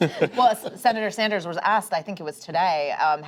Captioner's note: laughter